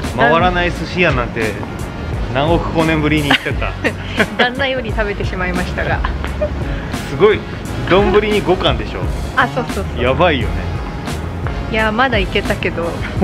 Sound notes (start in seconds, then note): 3.2 laughs